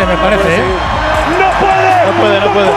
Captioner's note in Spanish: Gritos